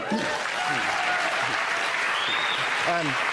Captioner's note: cheering and applause